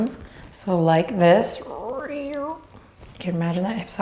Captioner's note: mimics creaking